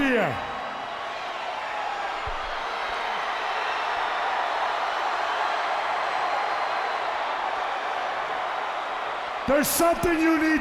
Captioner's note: crowd cheering